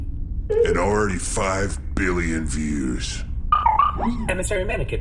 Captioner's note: electronic ding-ding